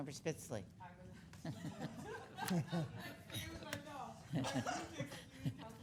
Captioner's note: speaking faintly; laughing